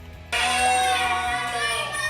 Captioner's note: cheering and clapping